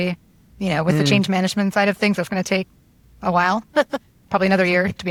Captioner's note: chuckles